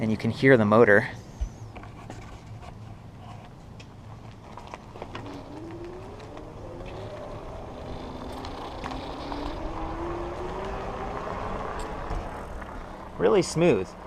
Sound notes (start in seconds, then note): 0.7 soft motor sound